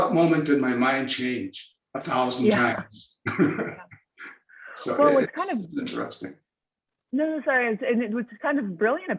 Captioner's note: chuckling